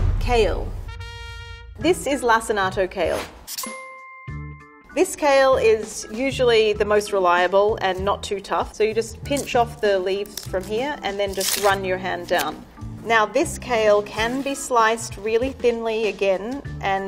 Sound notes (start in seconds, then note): 3.6 ping